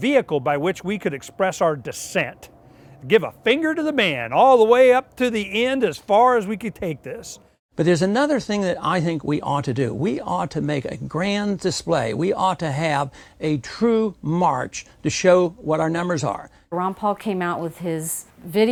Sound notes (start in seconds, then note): none